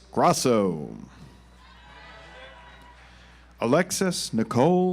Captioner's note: audience applauds